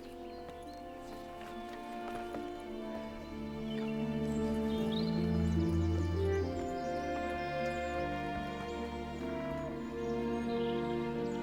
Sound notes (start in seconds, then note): 5.4 birds chirp